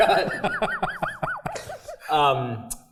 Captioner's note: laugh